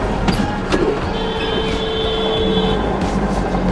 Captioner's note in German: lautes Hupen